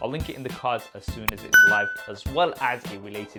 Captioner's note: bell dings